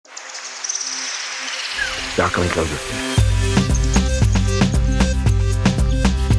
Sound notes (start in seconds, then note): 0.0 birds chirping; 3.2 uplifting music